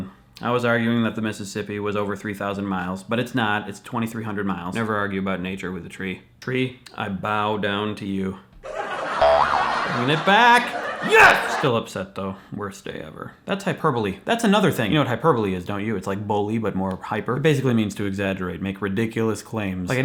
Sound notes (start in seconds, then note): 8.6 laughter in background